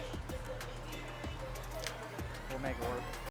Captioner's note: motor whirring